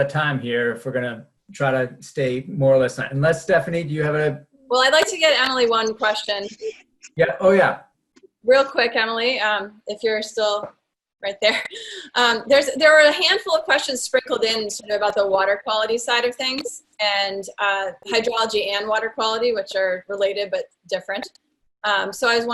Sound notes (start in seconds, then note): 11.8 chuckles